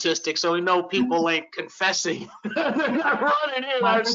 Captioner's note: laughs